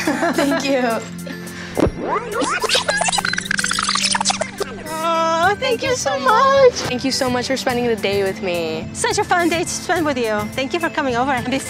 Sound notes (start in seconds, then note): 0.2 laughs; 1.8 tape fast forwarding